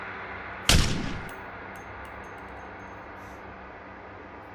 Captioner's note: gunshot fires